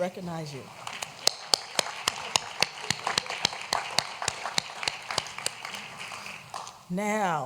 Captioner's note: applause